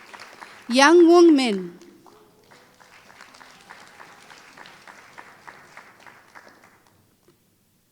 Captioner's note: applause